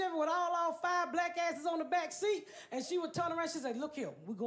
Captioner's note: none